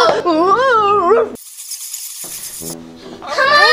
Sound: bats squeaking

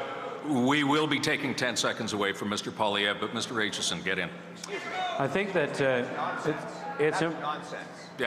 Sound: booing

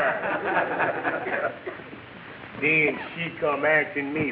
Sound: audience laughing

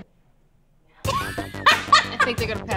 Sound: laughing

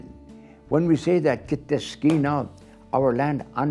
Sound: speaking foreign language

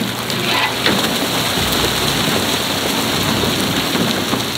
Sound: fish flopping

